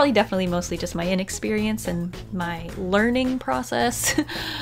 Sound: laughs

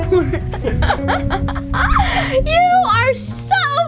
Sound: laughs

